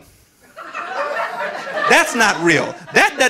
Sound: audience laughing

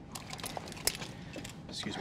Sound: seatbelt rustling

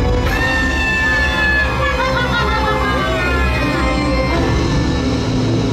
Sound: Winifred Cackling

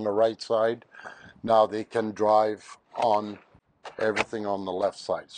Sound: device clunks

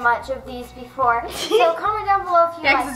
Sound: laughs

